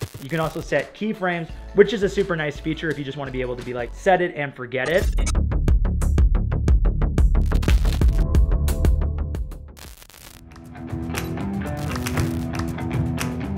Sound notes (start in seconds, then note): 0.0 static crackling; 0.0 upbeat drum music; 4.9 intense music; 7.5 static crackling; 10.2 upbeat rock music